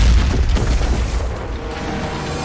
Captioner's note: crash; rattling